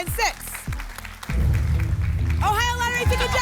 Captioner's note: boom; phaser sound